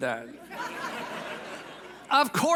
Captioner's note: audience laughs